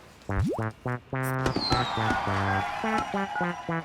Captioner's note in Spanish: Aplausos, vítores